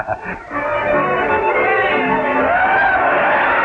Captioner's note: cheering